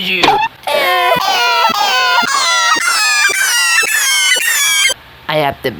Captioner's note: they progressively cry in a higher pitch